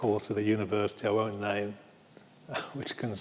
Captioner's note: laughs